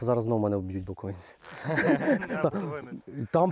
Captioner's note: laughs